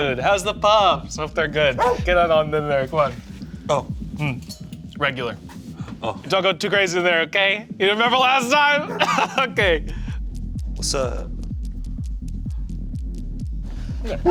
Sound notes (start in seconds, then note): 1.7 dog barks; 8.0 laughs; 8.8 dog barks; 10.2 paws tapping